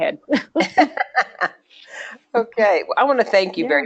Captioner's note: laughter